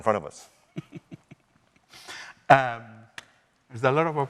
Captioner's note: chuckling